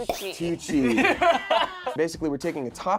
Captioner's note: group laughs